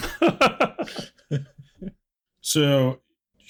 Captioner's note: laughter